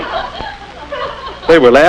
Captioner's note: giggling